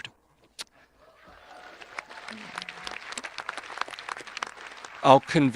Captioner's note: audience applauding